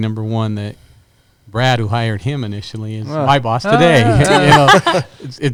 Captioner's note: laughter